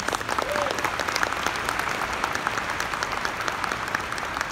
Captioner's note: audience applauding